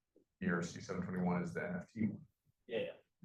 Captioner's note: professor speaking faintly